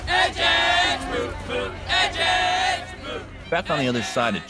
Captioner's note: crowd chanting